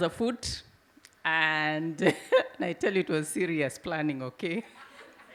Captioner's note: chuckles